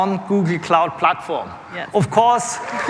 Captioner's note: cheers and applause